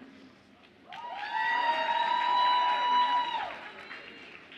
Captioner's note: audience applauds and cheers